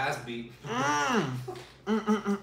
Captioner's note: laughs